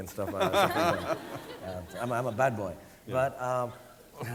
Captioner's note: audience laughing